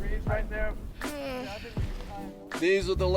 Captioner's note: moans